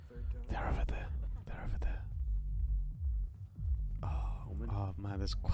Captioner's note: whispers